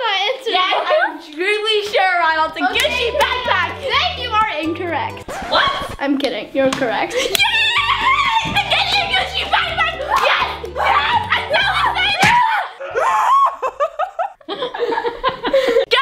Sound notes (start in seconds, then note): 4.8 record scratching; 10.8 laughing; 11.5 screaming